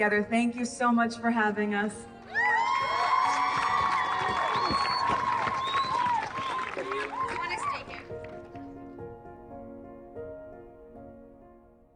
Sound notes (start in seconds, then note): 2.2 audience cheering